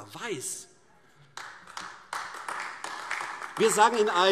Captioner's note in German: Beifall AfD